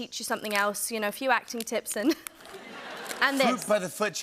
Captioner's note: chuckles